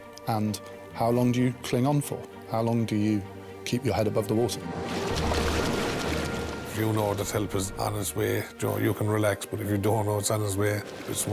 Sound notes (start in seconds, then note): 4.0 water whooshing; 4.4 water trickles